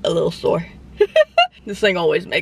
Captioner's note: laughing